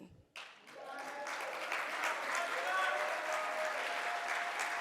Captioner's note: audience applauds